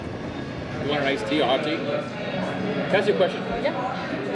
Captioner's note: faintly speaking